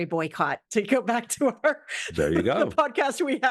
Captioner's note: laugh